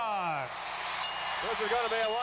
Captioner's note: crowd cheers; bell dings